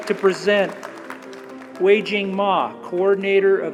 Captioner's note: applause